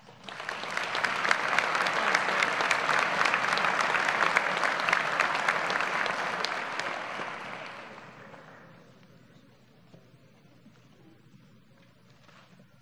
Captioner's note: applause